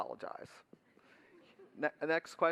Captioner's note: laughter